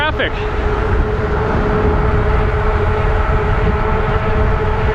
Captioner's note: wheels whirring